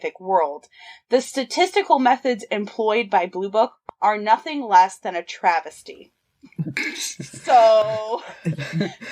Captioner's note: laughter